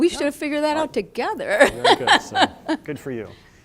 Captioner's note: laughter